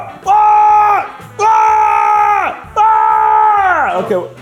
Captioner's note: screaming